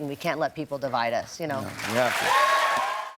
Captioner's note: cheers and applause